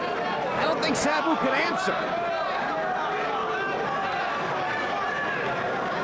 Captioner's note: overlapping chatter